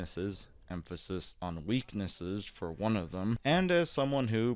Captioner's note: through gritted teeth